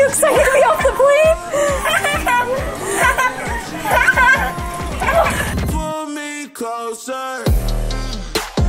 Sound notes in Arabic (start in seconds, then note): 2.0 أطفال يضحكون; 5.9 موسيقى مبهجة